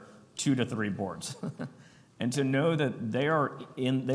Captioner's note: chuckles